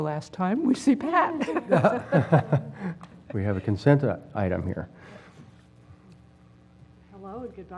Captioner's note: laugh